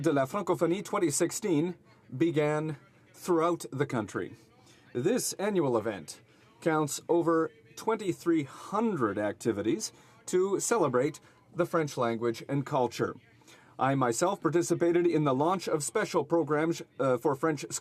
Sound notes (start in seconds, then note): 6.0 speaking French